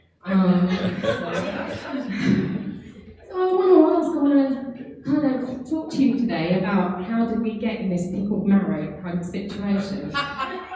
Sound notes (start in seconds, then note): 0.5 laughing drowns out speaking; 10.1 laughing